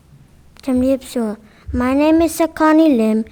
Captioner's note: speaking in a foreign language